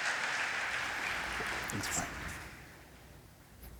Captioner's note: applause